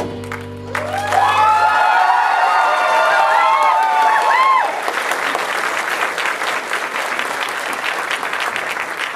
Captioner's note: audience cheers and applause